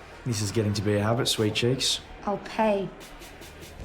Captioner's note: none